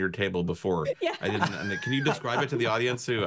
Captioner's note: laugh